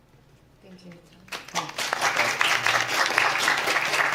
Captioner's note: applause